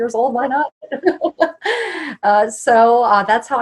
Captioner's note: laughs